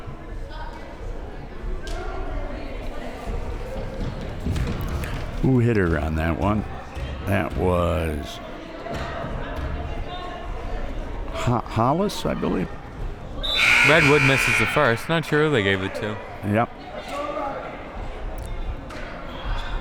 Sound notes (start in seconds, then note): 13.4 whistle; 13.5 buzzer